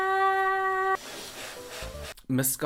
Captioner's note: blowing air